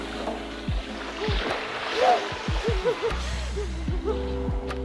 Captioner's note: both laugh